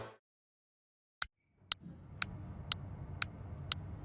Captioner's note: clock ticking